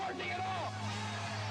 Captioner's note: cheers